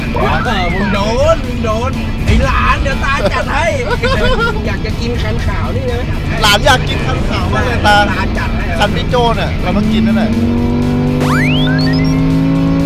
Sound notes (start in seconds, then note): 3.2 laughs; 10.3 engine rumbling